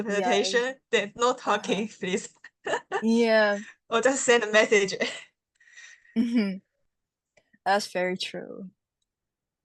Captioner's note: laughs